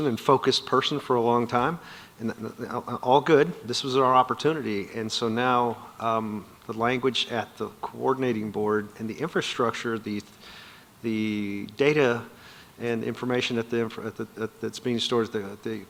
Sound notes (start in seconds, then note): none